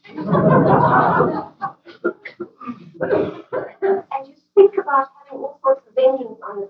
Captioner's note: laughter